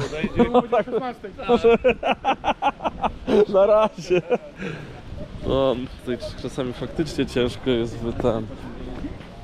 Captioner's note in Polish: śmiech